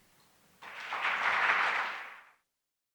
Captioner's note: audience applauding